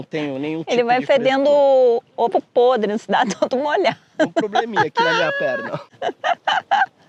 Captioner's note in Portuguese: risadas